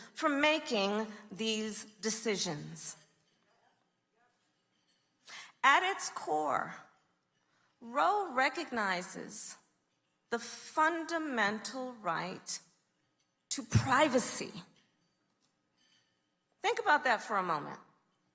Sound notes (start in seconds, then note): none